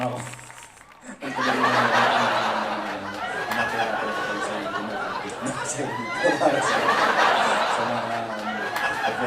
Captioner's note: laugh